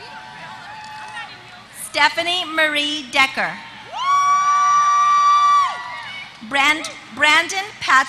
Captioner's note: applause